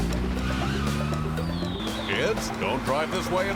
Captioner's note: engine turns over; tires squeal